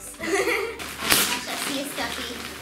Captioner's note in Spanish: risas